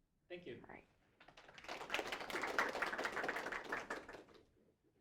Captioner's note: applause